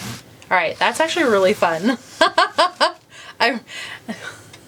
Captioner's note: laughs